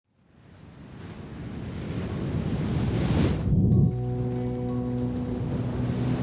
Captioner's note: waves crashing; gentle music